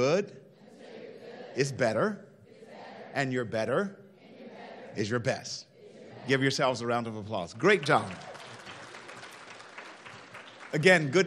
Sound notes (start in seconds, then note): 0.5 crowd; 5.7 crowd; 7.5 applauding